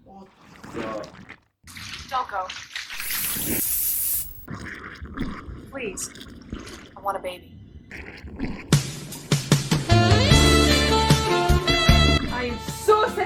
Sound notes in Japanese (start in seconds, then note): 3.0 スプレー効果音